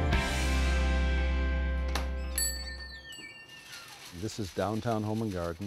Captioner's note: bell ringing